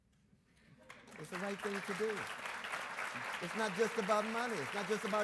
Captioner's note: audience applauds